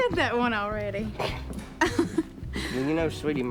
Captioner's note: laughs